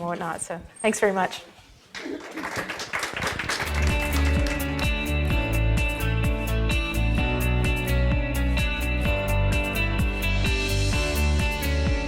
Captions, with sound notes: not. Thanks very much. [Applause] [Upbeat music]